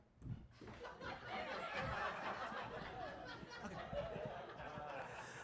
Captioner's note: audience laughs